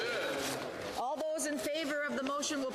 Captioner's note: speaking French